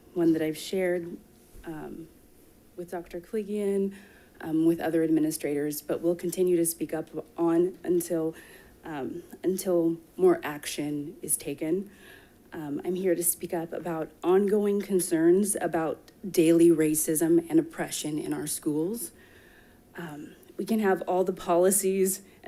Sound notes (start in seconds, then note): none